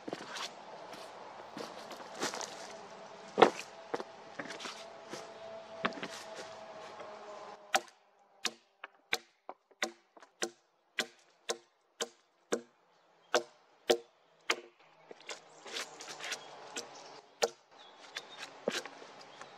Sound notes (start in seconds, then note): 1.5 foosteps; 5.9 axe knocking on wood, brushing the work with a gloved hand